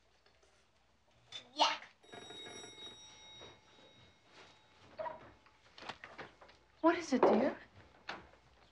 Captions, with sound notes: Yuck! (doorbell ringing) - What is it dear?